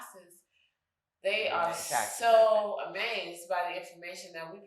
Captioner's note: speaking faintly